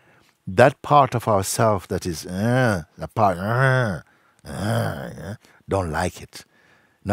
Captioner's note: ahmt Knurren nach